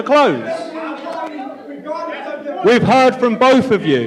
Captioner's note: audience Shouting